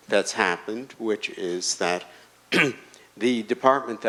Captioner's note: clears throat